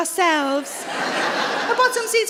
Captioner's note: audience laughs